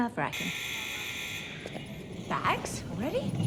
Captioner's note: buzzer sounds